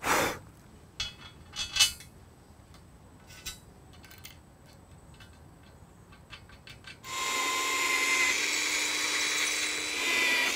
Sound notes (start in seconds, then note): 4.6 bolts tightening; 7.0 drilling machine running